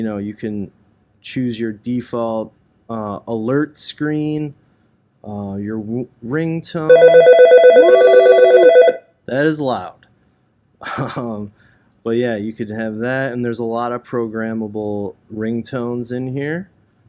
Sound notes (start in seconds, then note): 6.9 Algo ringing